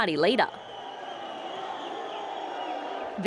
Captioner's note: cheering